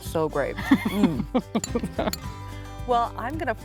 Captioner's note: chuckling